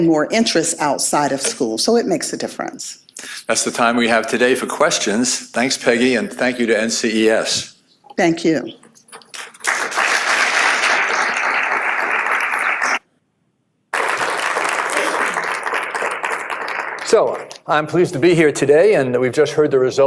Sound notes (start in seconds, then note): 9.3 applause